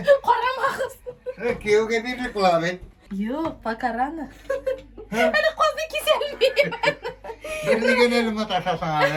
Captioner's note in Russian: смех